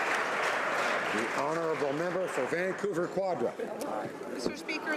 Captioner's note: applause